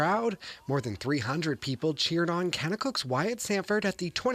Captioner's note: cheering and Applause